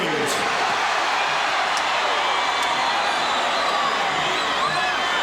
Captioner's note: audience cheering